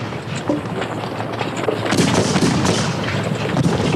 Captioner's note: guns bang